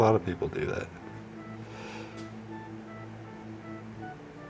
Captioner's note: sighs